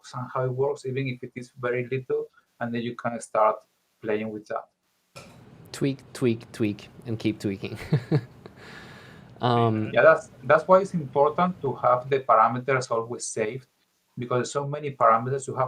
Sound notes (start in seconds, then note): 7.7 laughing